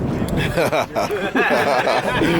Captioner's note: laughs